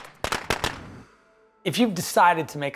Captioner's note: gunshots